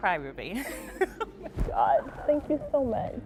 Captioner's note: laughter